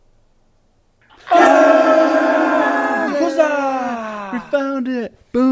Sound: group cheers

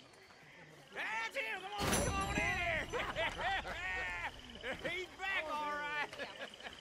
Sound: laughs

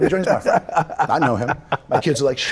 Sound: Micheal laughs

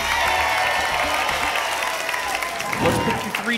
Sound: applause and cheering cont

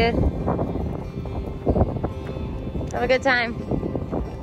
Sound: wind blowing fiercely

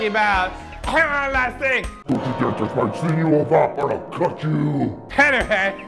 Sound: deep voice

